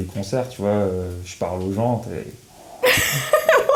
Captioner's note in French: Imite le bruit du vent; Rires